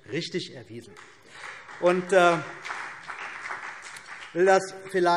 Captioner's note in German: Beifall BÜNDNIS 90/DIE GRÜNEN und vereinzelt CDU